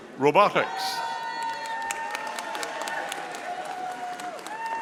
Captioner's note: audience applauding